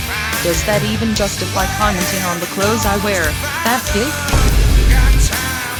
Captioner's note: normal voice